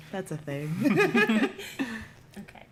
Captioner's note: laughter